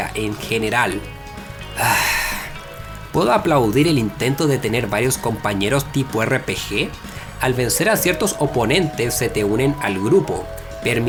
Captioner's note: sigh